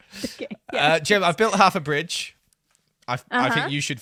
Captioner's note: laughs